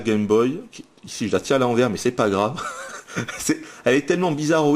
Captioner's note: laughs